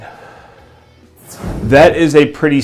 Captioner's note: exhales